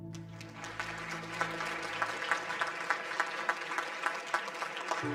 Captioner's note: upbeat music; audience applause